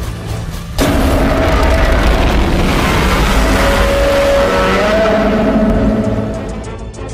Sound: Godzilla Minus One roars

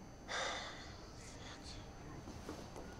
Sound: sighs

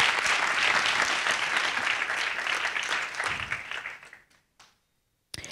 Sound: audience applauding

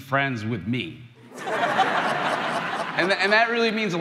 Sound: crowd laughing

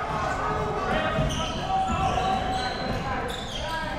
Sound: crowd cheering

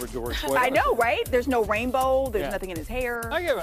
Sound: laughter

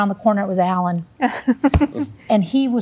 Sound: laughter

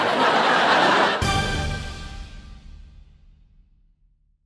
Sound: audience laughing

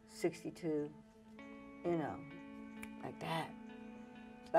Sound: snaps

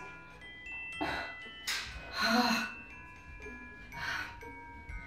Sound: sighs

